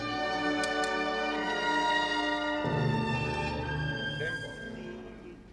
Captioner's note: tapping music stand; orchestra stopping